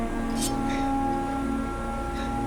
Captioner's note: snick